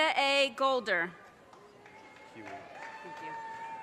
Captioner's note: audience cheers and applause